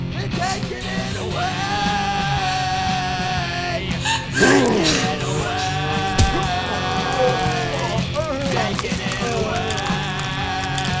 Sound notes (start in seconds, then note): 4.0 woman sobbing; 4.2 zombie groaning; 6.1 flesh squelching